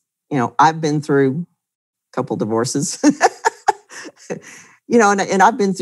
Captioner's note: laughs loudly